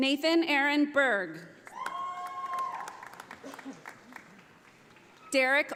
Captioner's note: audience applauding